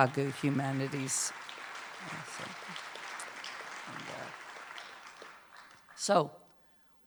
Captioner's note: applause